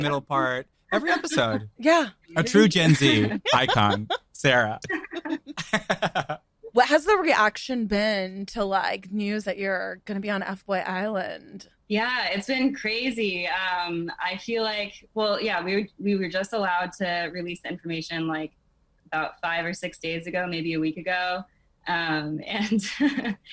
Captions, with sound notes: and you deliver the middle part every episode. A true gen Z icon, Sarah. (laughs) - What has the reaction been to news that you're gonna be on "FBoy Island?" - Yeah, it's been crazy. We were just allowed to release information about five or six days ago, maybe a week ago,